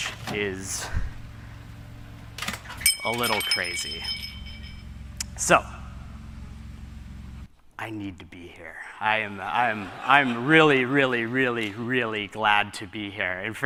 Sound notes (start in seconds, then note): 2.4 jingling